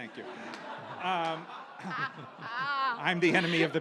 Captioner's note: audience laughs